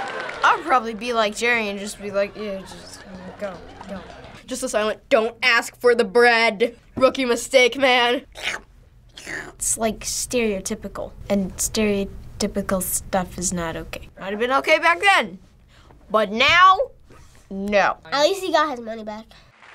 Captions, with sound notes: - I would probably be like Jerry and just be like, you know, "Just go. Go." - Just a silent "Don't ask for the bread!" Rookie mistake, man. - (slurps) - It's like stereotypical. And stereotypical stuff is not okay. It might've been okay back then. But now, no. - At least he got his money back.